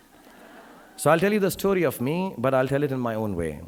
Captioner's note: audience laughing